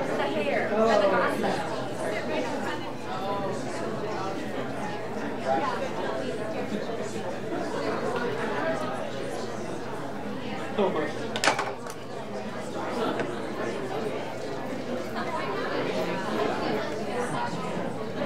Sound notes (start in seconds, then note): 5.6 audience chattering